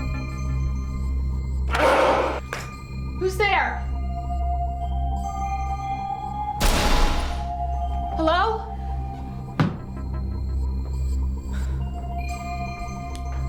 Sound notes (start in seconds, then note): 1.5 dog barking; 6.6 loud banging